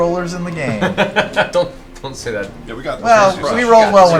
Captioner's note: laughs